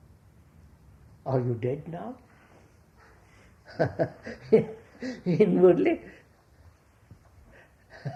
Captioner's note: laughs